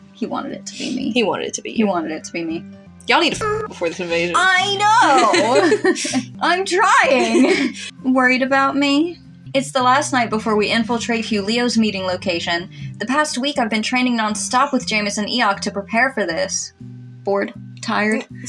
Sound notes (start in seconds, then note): 4.8 laugh; 5.0 chuckle